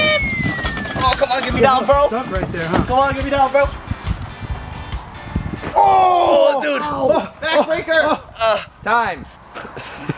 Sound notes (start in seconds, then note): 7.3 grunting